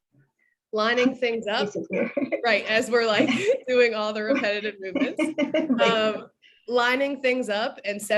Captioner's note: laughing